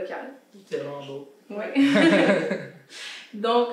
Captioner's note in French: rires